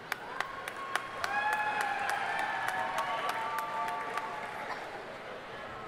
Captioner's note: audience cheering and applauding